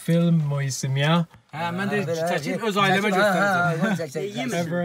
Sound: men speak in Azerbaijani

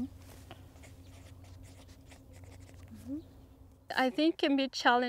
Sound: pen scratches

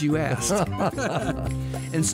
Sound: both laugh

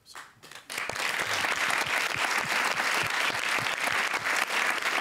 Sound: applause

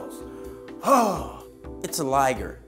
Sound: deep sigh

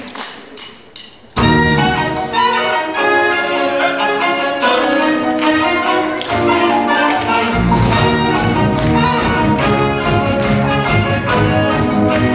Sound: applause

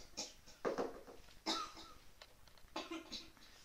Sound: hust; hust hust; hust

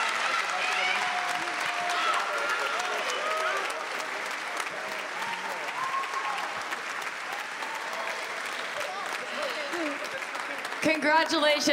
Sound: applause

